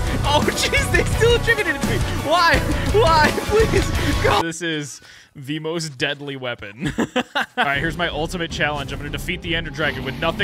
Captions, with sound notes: Oh jeez, they still attribute it to me. Why, why? This is the most deadly weapon. (laughing) All right, here's my ultimate challenge. I'm gonna defeat the Ender Dragon with nothing